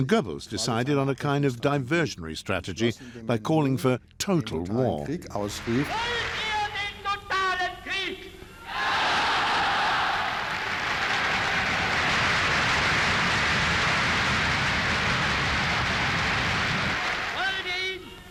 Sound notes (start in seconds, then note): 6.1 speaking in German; 8.7 crowd cheers and applauds